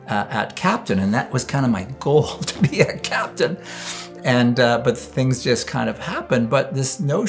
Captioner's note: laughs